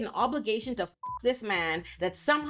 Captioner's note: beep